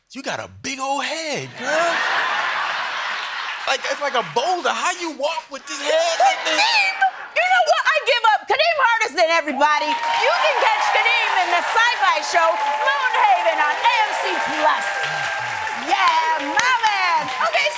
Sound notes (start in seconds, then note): 1.5 laughter; 9.5 cheers and applause